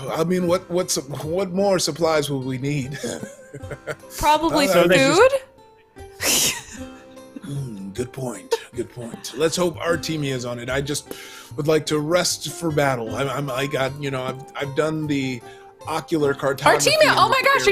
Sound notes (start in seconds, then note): 5.3 mumbles